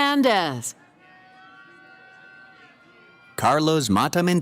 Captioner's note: cheering